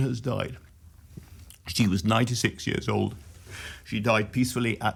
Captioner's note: gulping